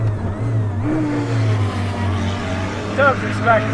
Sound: car engine roars

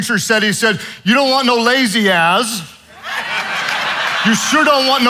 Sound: audience laughing

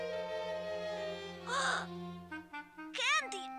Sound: gasps

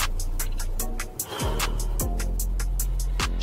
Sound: exhale

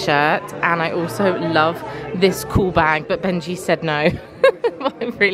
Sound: laughing

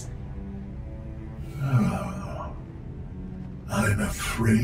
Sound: sighs

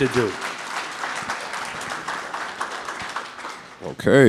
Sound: audience clapping

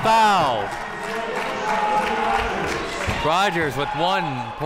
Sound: spectators applauding

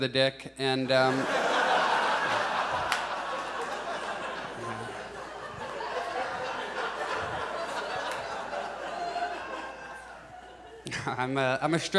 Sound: audience laughs

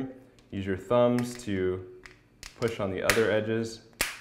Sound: plastic popping

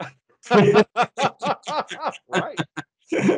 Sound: both laughing

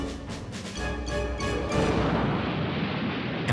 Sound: explosion

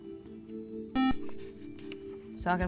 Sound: buzzer

